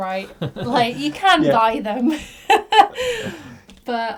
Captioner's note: laughs